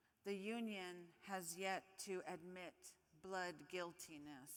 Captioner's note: none